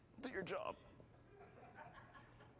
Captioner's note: laughter